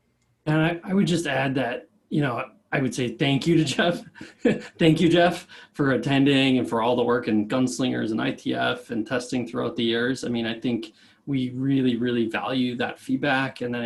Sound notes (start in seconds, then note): 3.5 laughs